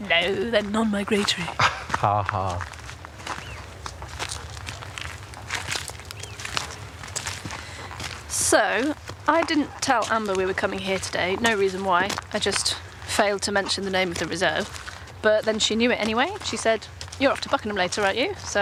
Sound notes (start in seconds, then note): 3.1 footsteps